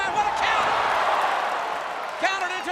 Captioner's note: crowd cheering